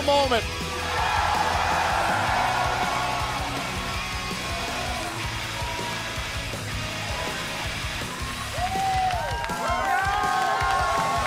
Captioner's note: crowd cheering